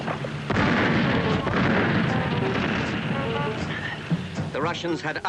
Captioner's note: explosions booming continues